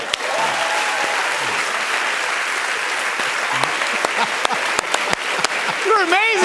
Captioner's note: cheers and applause